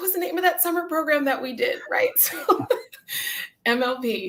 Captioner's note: laughter